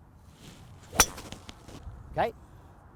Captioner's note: thwack sound